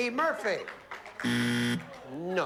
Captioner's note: buzzer